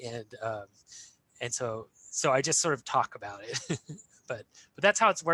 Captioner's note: chuckles